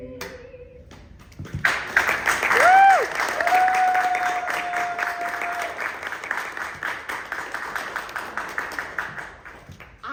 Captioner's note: applause